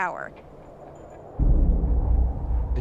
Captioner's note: wind swishing